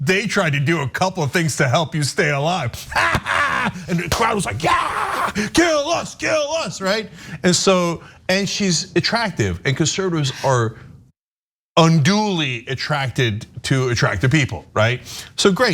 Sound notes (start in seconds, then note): 2.8 laugh